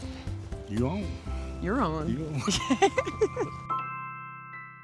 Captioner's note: laughter